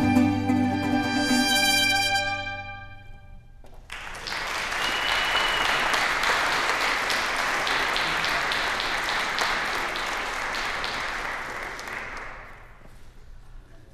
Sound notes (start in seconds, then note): 3.8 applause